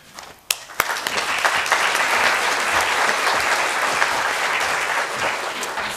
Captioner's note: applause